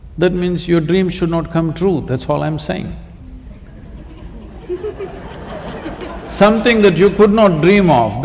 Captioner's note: laughter